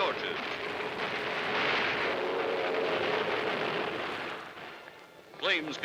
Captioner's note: explosions